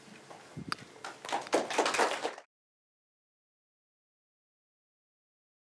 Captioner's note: applause